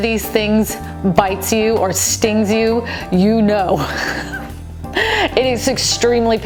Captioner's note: laughing